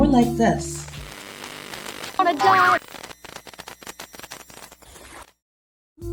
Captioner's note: incoherent static noises